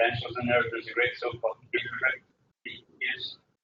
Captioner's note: talking